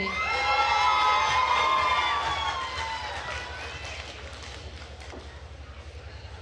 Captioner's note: attendees cheering and applauding